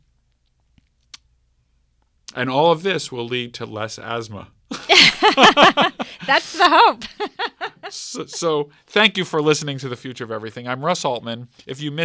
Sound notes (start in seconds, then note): 4.7 both laugh